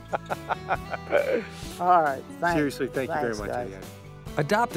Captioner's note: laughter